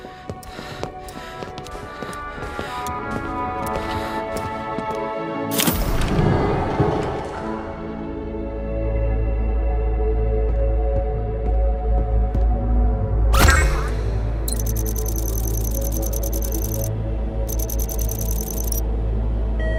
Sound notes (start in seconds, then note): 0.0 panting softly; 14.4 console beeps; 14.4 console chirping; 19.5 console beeps